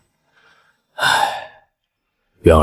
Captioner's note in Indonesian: Menghela napas